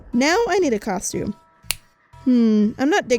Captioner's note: finger snapping